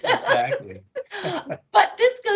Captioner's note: laughing